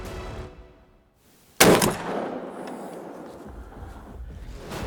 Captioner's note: deer call grunts; rifle fire bangs; dramatic music